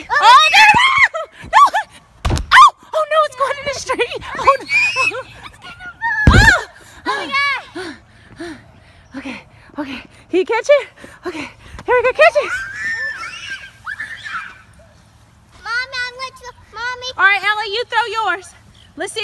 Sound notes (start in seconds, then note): 0.1 screaming; 2.2 balloon thuds; 4.3 girls screaming; 6.2 balloon thuds; 8.1 huffing and puffing; 12.2 girls screaming